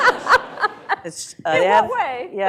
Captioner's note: laughter